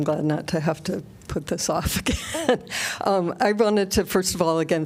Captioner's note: laughter